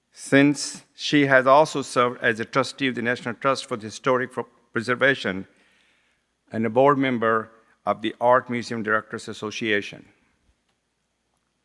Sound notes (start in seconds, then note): none